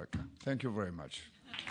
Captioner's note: applause